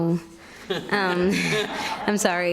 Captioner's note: audience laughing